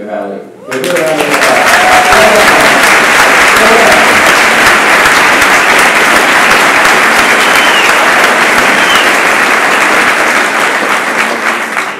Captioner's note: applause